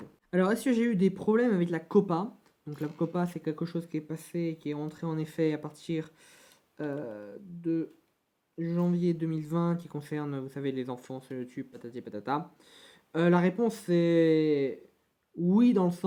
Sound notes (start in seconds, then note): 12.2 french